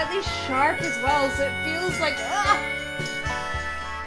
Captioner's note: groans; tender instrumental music